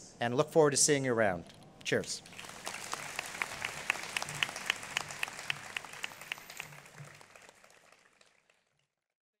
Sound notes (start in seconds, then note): 2.2 applause